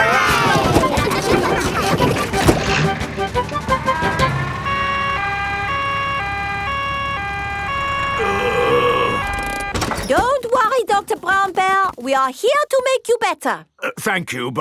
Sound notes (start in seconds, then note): 0.0 giggling; 5.2 siren wailing; 8.1 groaning